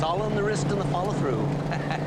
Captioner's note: laughs